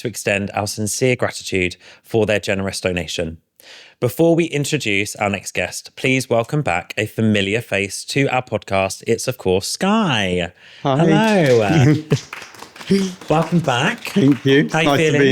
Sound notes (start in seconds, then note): 11.0 audience applauding